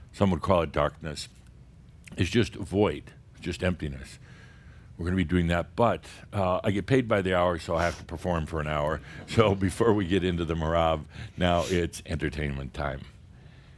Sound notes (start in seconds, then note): 8.8 a few chuckles